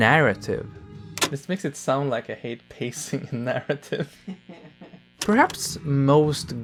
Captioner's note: chuckling in the background